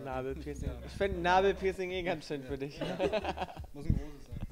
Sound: laughing

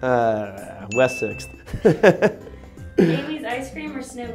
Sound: laughs

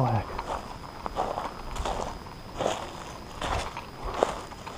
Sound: footsteps thudding

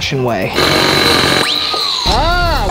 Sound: drilling sound

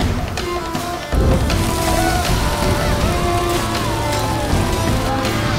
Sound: flames crackle; scream; screaming

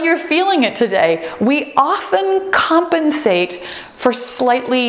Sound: timer beeps

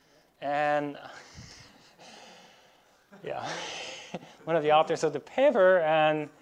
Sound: laughs

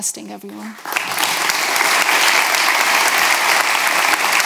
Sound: applause

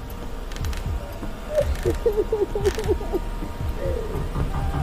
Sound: woman sobs; door knocks

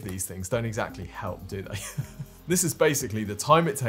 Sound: laughs

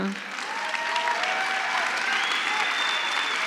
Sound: applause

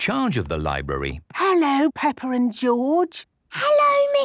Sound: whispering

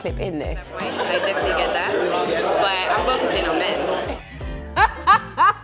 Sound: Mexican accent; laughs

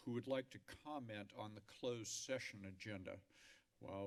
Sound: none

